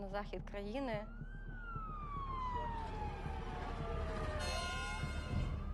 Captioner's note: sirens blaring